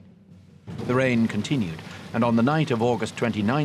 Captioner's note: rain pattering